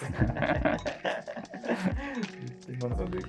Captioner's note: laughing